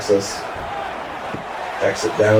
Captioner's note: crowd Noises